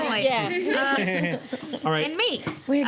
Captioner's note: laughing